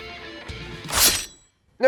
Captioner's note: snikt